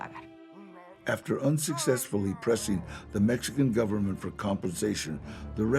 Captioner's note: in English